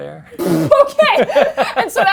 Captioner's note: laughs